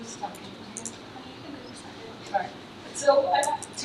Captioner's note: faintly speaking